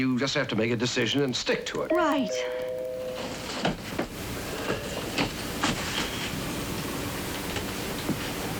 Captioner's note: doorbell ringing